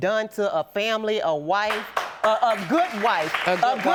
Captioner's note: audience applauding